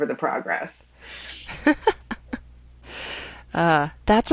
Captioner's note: woman laughs